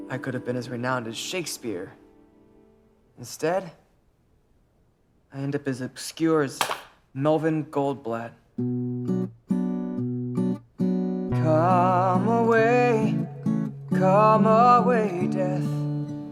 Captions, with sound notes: I could have been as renowned as Shakespeare. But instead... I end up as obscure as… (drops paintbrush) Melvin Goldblatt (guitar music) COME AWAY COME AWAY DEATH